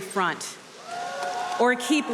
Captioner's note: audience cheering